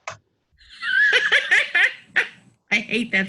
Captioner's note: laughing